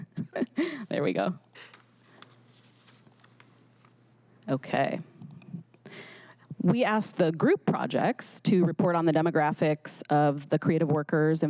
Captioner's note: laughter